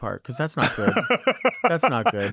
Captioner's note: laughing